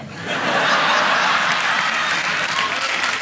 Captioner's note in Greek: γέλια